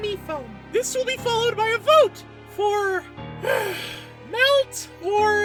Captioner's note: sigh